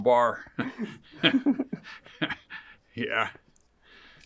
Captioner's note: interviewer chuckles; laughs; interviewer laughs